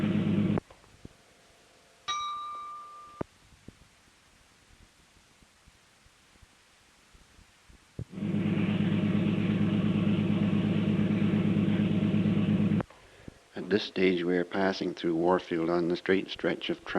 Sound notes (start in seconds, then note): 2.0 bell Sound; 8.1 sound of train moving